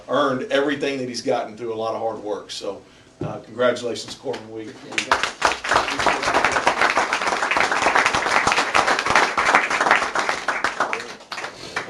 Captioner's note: applause